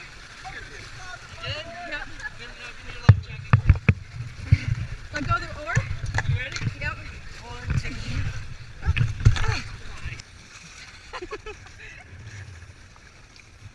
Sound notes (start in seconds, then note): 8.8 groaning; 11.0 laughing